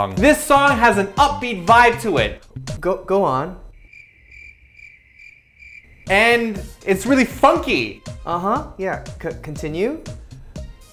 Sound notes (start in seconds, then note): 3.6 crickets chirping